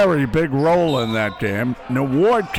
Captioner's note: whistle blows